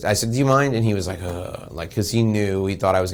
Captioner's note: sighs